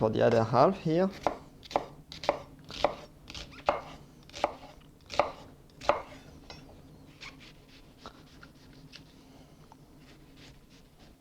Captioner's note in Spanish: sonido cortando